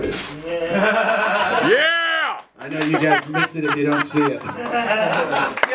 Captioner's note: applause and laughter; laughter